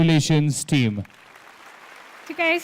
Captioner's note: applause